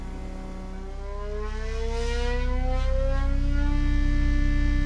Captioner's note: revving intensifies